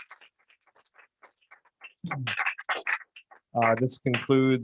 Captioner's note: applause